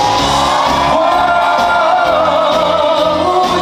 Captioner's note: screams